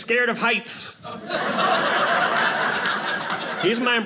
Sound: audience laughing

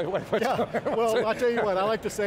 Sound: laughs

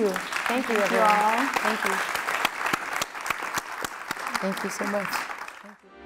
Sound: audience clapping

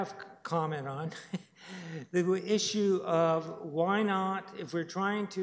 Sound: chuckles

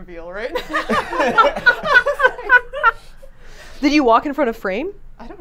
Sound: all laughing

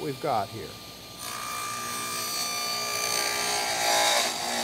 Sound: groover buzzing

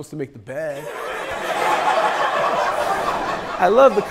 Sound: people laughing

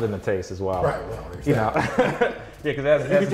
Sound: laughs

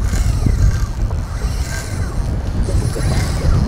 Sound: reel cranking

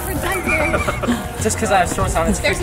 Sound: laughing

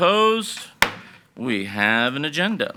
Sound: gavel bangs

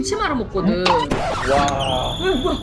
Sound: laughing

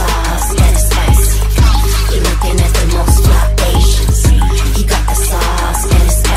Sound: echo intensifies; inspiring music

